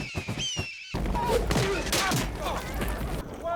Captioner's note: grunting